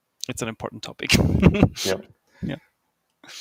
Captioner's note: laughs